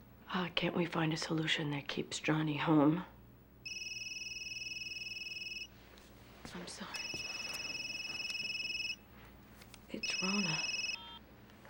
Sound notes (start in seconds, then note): 3.6 cell phone ringing; 10.0 phone beeps